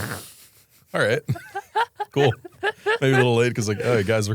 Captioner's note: laughs